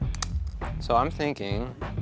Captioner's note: shears snapping